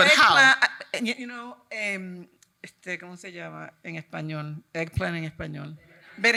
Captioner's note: speaking in Spanish